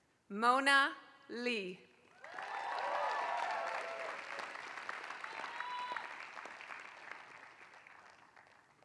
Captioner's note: applause